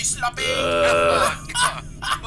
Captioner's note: dumbfounded sounds; herb laughs; laugh